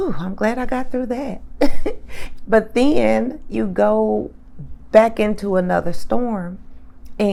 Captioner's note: chuckles